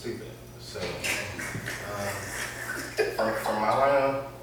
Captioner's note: laughter